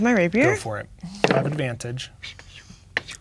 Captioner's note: dice rolling